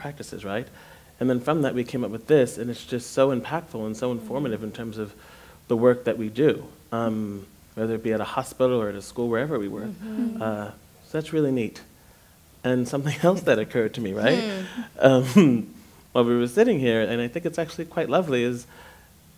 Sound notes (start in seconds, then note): 9.8 others agreeing; 14.2 laughing